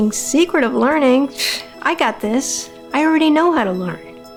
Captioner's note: scoffs